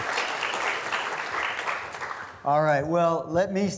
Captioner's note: students applauding